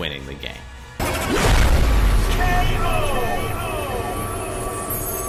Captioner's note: K.O. sound effect